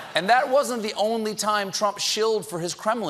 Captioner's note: laughter